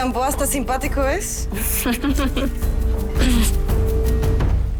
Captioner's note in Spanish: Risas